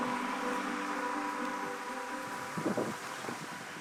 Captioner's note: instrumental music; wind blowing